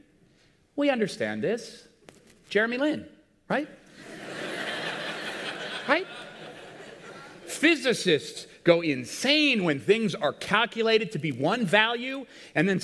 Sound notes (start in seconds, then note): 3.9 people laughting